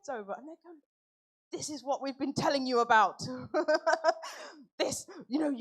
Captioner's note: laughs